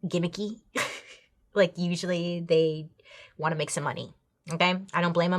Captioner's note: chuckles